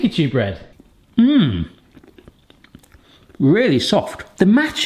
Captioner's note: chewing